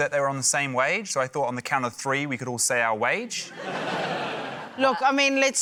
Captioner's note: laughter